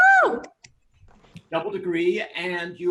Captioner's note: attendees cheering